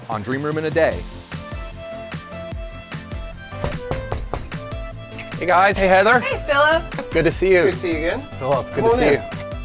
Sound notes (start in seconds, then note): 3.4 knocks